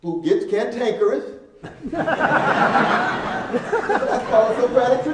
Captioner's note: laughing